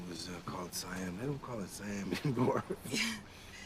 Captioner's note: chuckling